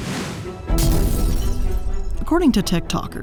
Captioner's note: dramatic music; glass breaking